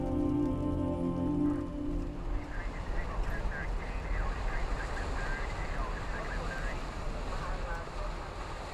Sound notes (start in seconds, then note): 2.2 muffled chatter; 2.3 muffled radio chatter